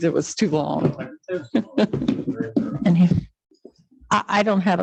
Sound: laughs

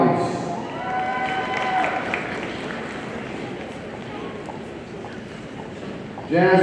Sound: audience cheering and applauding

